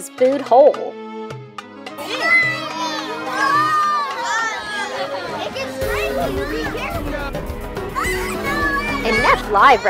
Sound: children chattering

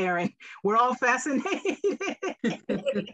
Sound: laughs

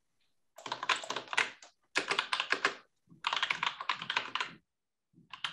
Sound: keyboard clattering

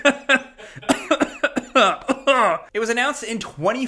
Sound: friend laughs; laughs; coughs

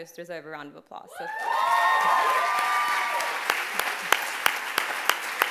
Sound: applause and cheering

